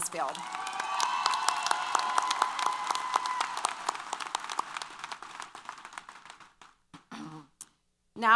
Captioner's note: applause & Cheers